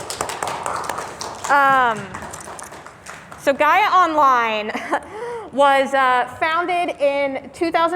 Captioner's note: clapping